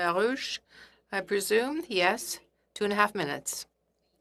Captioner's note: speaking French